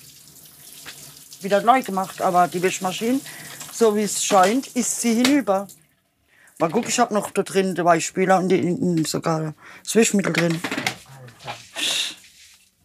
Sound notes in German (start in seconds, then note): none